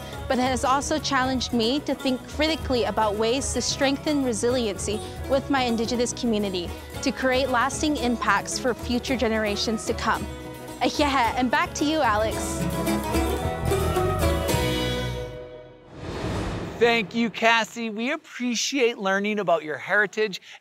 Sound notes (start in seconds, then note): 10.8 speaking in Indigenous language; 12.7 calm traditional music